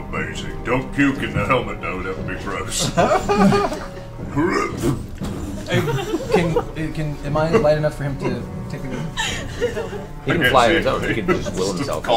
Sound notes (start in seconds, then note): 4.3 imitates puking